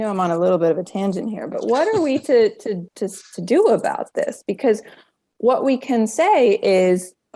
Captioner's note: laughing